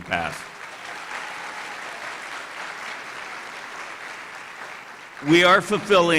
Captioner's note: applause